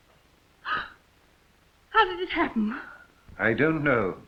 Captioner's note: gasps